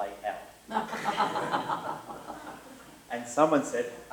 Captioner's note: laughter